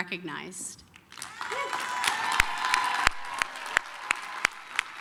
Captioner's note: applause, cheering